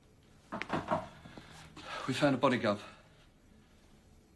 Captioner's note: knocking on door